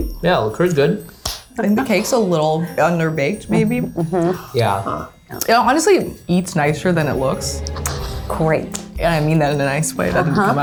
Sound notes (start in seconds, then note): 7.9 quiet laughter